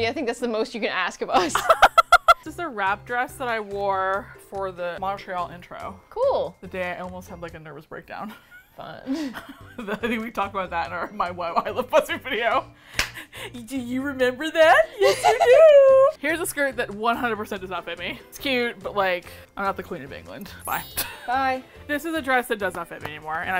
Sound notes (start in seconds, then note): 1.4 laughs; 8.4 both laugh; 13.7 babytalk; 15.0 both laugh; 20.7 laughs